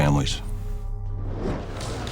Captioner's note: whoosh